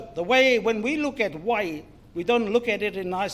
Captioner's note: foreign Language